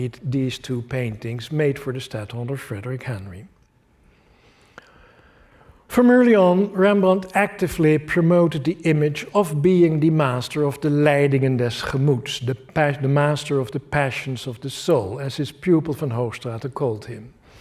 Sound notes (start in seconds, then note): 11.2 non-english speech